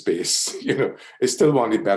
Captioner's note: laughs